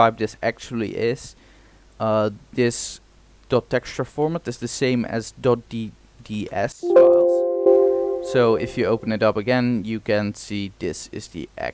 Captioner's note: sound warning